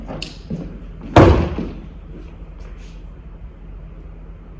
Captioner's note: thumping